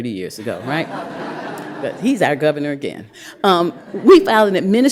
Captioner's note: laughter